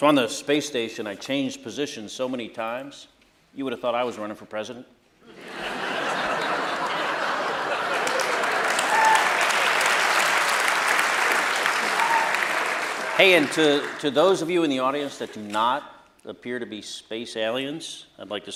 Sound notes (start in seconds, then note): 5.2 laughter; 6.0 applause